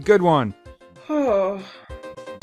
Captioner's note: groans